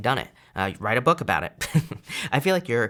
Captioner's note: chuckles